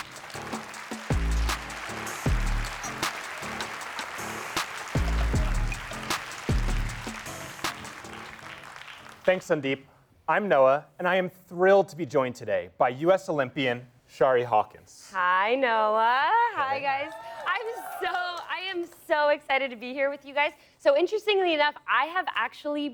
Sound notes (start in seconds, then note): 6.8 applause